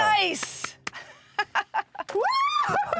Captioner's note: laughs